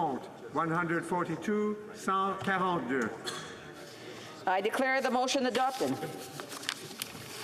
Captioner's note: speaking French